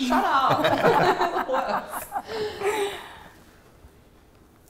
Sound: all laugh

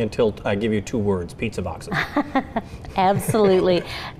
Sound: laughing

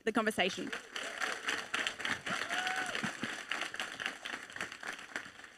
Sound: audience applauding

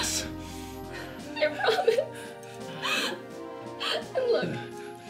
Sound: crying

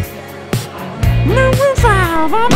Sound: crowd gasp

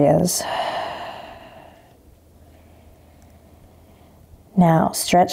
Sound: exhaling strongly

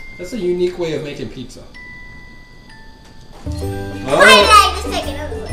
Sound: voiceover

